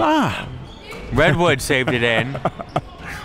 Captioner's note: laughs